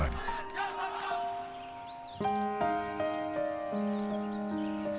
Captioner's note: birds chirping